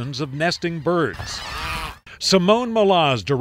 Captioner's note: birds cawing